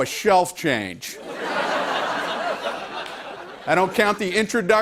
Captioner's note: laughter